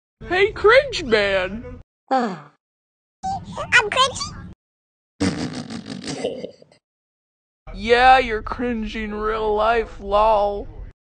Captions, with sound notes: hey, cringe man! (yawn) IM CRINGY??! (LAUGH) yeah, you'r cringy in real life, lol